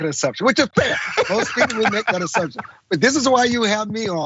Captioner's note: laugh